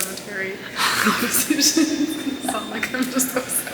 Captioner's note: laughs